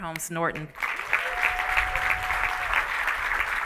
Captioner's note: applause